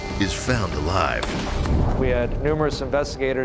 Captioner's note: gun firing